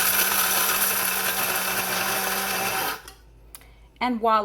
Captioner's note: grinder buzzing